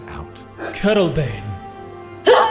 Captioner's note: surprised